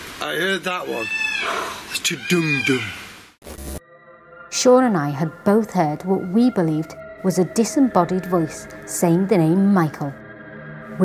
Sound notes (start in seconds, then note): 0.8 peacocks squawking; 2.5 makes drum sounds